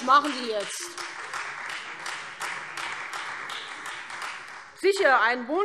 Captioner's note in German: Beifall Freie Demokraten